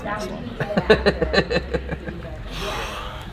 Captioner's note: laughter